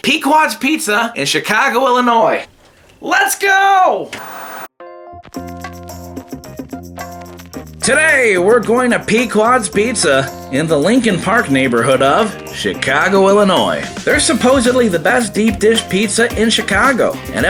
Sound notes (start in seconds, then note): 4.0 TV Static; 5.2 soft music